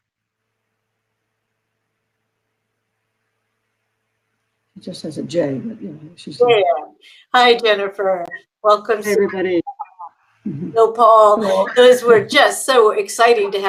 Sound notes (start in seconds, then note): 8.8 all chattering